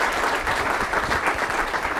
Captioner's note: applause